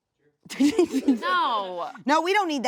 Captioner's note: laughs